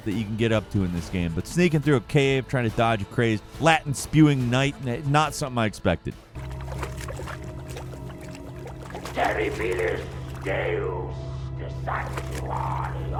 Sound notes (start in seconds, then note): 6.3 liquid burbling; 9.3 game character speaks Latin